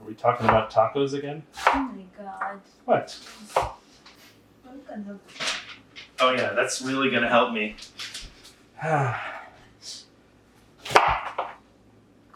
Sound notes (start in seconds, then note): 8.8 sigh